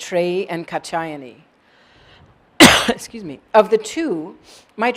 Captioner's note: cough